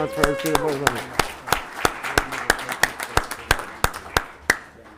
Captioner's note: cheering and applauding